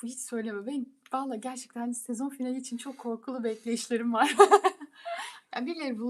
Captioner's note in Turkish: kahkaha